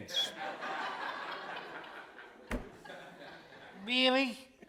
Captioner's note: audience laughing